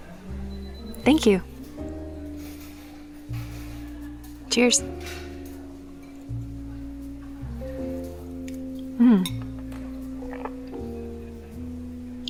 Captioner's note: takes a sip